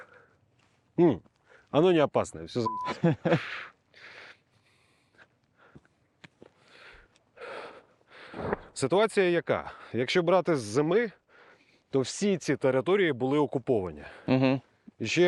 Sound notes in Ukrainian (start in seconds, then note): 2.9 сміються